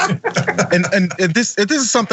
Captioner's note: laugh